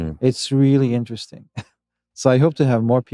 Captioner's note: chuckles